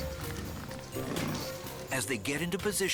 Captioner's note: lion growls